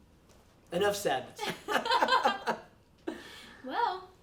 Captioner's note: laughing